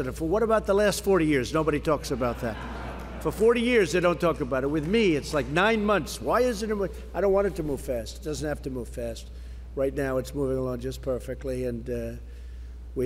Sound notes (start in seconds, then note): 2.0 laughter